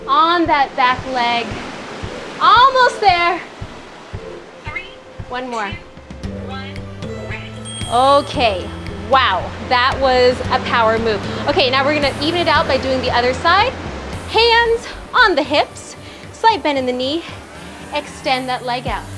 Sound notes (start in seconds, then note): 7.6 timer rings